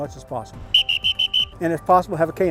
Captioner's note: whistle blows